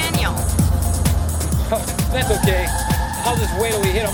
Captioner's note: tires squealing